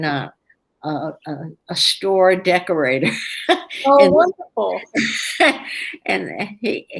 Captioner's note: laughs